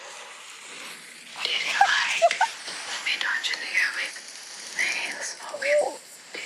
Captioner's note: presenter faintly speaking